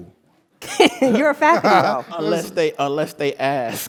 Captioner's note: laugh